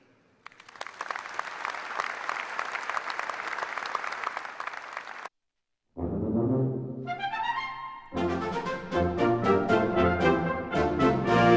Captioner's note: applause